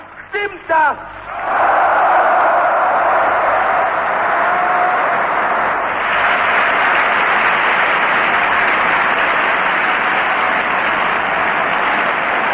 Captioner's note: applause